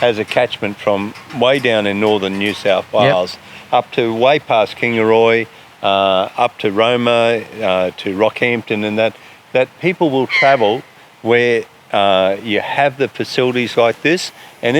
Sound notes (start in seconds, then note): 10.2 eagle shrieks